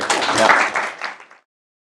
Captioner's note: applause